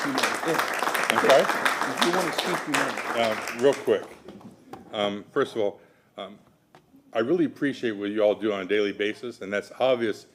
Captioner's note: applause